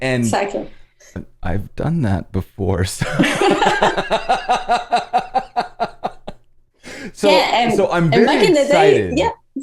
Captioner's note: laughter